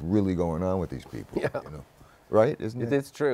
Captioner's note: chuckling